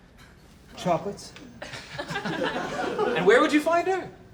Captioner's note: laughter